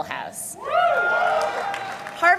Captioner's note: applause